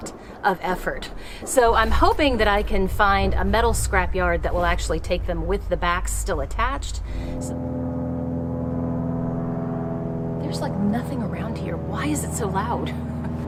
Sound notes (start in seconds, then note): 8.2 airplane overhead